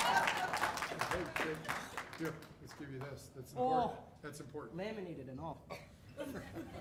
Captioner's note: laughter